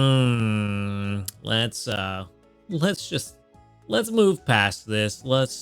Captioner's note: groans